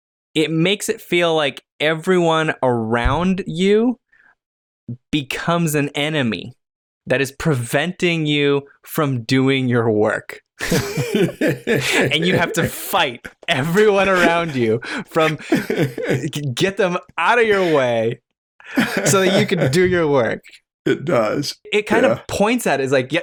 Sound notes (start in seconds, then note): 10.6 laughter